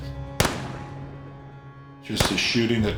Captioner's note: gun firing